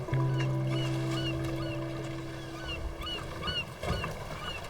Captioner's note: sea gull cawing